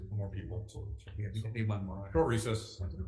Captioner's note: faintly speaking